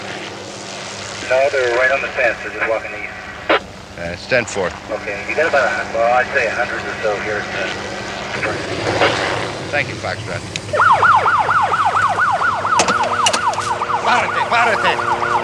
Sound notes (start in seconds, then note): 1.9 helicopter engine and radio transmittion; 10.6 police siren